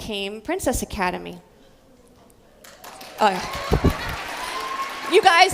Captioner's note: applause